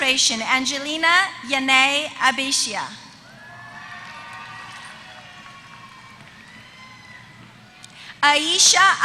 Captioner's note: applause